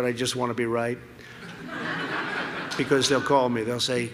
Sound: laughter

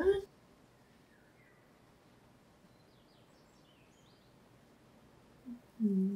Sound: birds chirping in the distance

